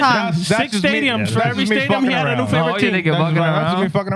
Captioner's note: speaking In Foreign Language